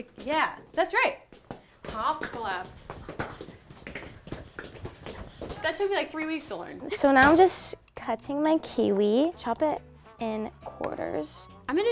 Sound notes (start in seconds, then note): 3.0 shoes clicking